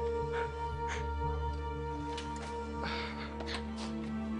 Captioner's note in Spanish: Sollozos